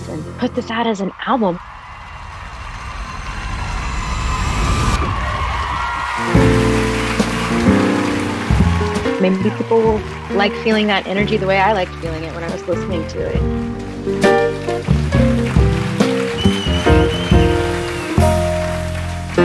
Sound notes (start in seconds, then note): 1.4 applause; 6.2 jazz piano music